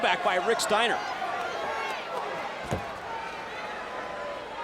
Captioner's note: crowd yelling